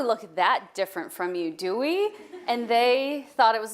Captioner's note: audience laughing